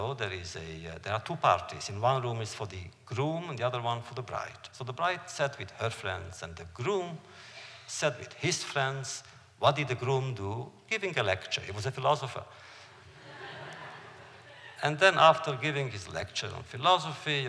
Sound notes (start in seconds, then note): 13.0 laughter